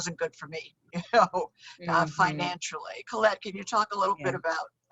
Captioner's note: laughs